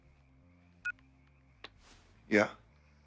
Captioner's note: cell phone beeps